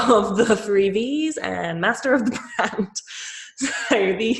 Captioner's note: laughs